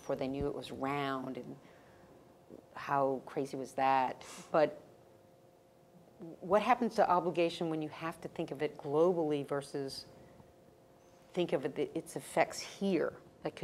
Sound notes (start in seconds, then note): none